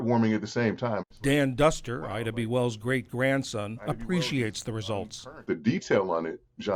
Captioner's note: voice-over